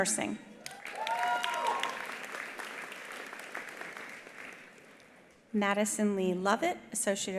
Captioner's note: attendees cheering; attendees applauding